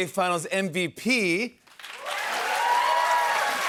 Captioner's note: cheers and applause